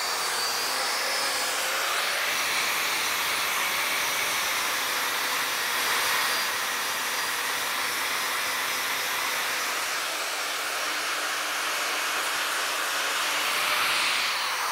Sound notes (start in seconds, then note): none